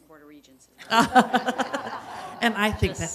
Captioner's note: laughing